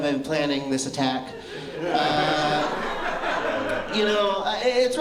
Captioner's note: laughter